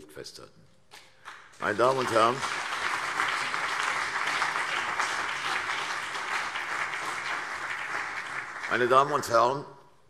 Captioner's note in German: Anhaltender Beifall CDU und BÜNDNIS 90/DIE GRÜNEN